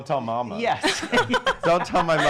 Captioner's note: laughing